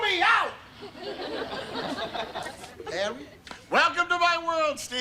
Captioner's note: audience laughter